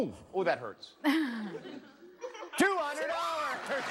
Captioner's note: laughs